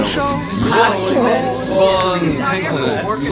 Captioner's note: haha